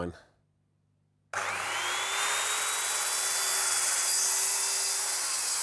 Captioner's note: sawing